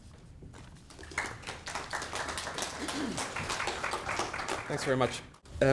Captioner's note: audience clapping